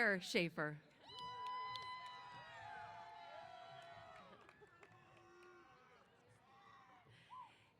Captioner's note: applause & Cheers